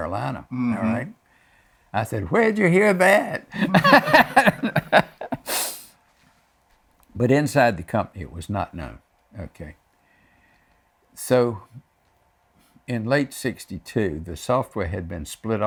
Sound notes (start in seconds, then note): 6.1 laughs